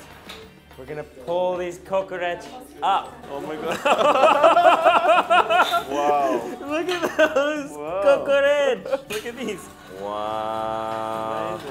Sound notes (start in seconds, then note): 3.7 laughing